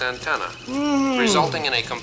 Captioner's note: Muppet groans